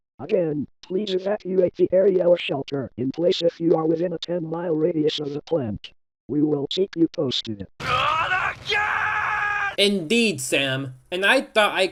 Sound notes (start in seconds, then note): 7.7 in Homer's voice